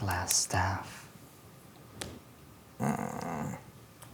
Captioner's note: groans